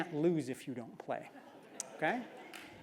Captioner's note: laugh